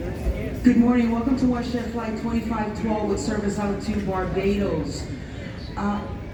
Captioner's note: announcement